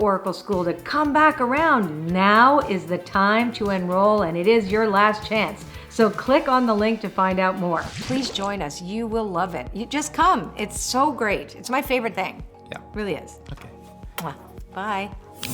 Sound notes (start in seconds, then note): 7.6 loud splash; 13.7 loud smooch